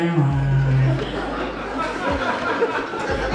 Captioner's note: audience Laughs